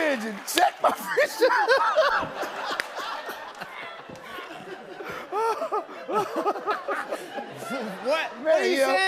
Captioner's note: laughter